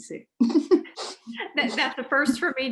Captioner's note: laughs